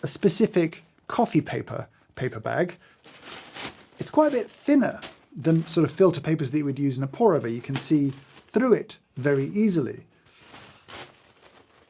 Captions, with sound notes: A specific coffee paper, paper bag. (paper bag rustling) It's quite a bit thinner than sort of filter papers that you would use in a pour over. You can see through it very easily.